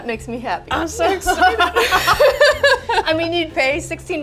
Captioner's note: both laugh